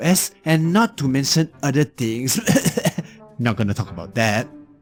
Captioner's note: cough cough